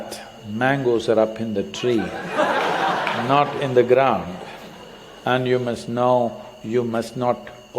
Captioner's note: laughter